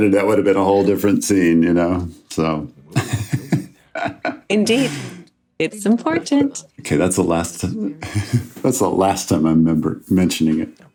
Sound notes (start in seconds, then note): 2.9 laughs